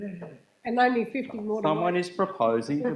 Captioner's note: woman's Voice